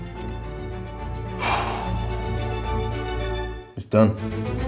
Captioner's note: sighs